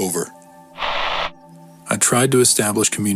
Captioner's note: Static